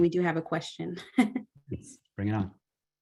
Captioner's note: laughter